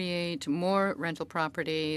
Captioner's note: speaking French